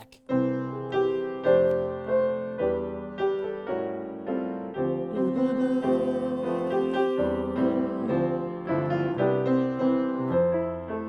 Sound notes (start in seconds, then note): 0.2 playing piano; 5.1 humming